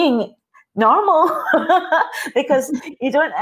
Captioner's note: laughing